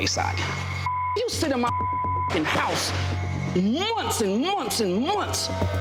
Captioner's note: beep